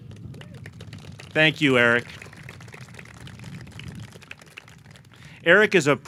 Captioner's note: audience clapping